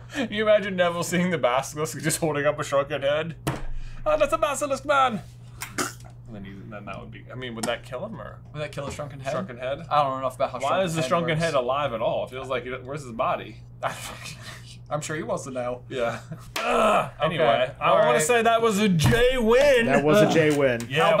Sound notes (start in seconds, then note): 5.6 death noise